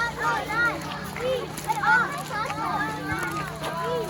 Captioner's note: kids chanting while walking on a gravel path